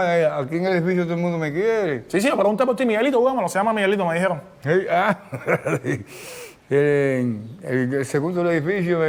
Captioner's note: laughs